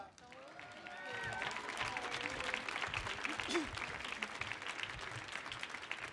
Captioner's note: audience cheers and applauds